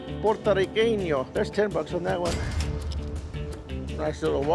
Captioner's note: cash register dings